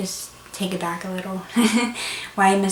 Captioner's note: laughs